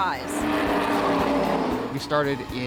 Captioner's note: race cars whizzing